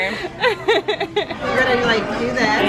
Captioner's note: laughing